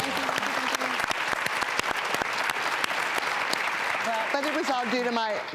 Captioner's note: audience clapping